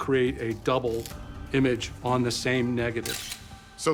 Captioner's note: camera clicks